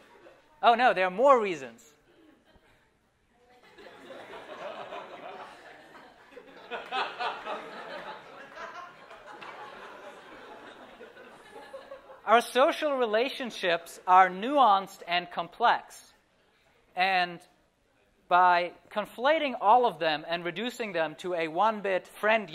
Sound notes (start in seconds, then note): 0.0 laughter; 3.4 laughter